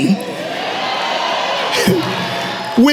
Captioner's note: cheering